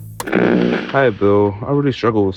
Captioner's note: radio whirring